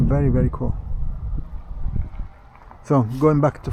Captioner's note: footsteps